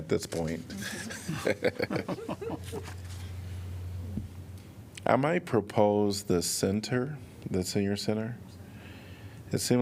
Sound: laughter

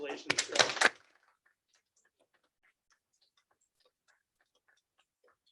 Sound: participants clapping

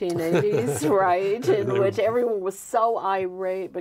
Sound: both laughing

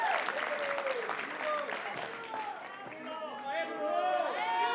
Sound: audience cheers and applauds; graduates chant

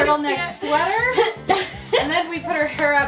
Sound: grunting

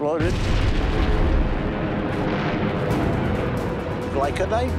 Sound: bomb exploding

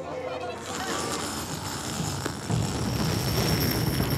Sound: crowd oohs; zipper grinding

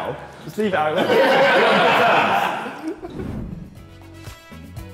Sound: all laughing; upbeat music

